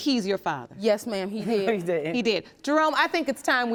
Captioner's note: chuckling